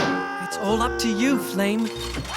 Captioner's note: rattling; screaming